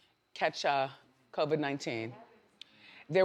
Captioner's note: none